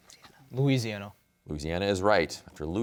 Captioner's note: whispers